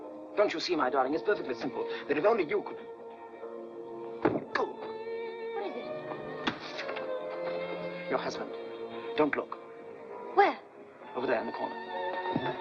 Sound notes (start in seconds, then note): 4.2 Logan gasps; 4.2 bottle slams down